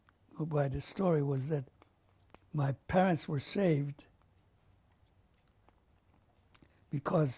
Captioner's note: pauses for 3 seconds